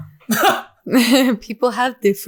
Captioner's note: chuckles